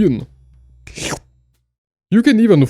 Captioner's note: slurp!